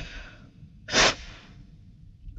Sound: sniffles

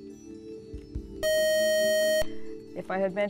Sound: buzzer

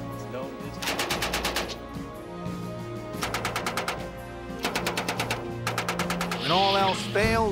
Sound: gun shots

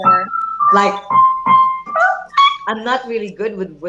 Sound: keyboard sound

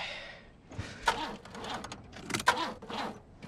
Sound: engine struggling

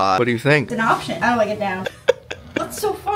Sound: laughs

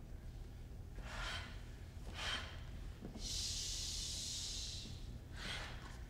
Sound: harsh breaths; harsh breaths

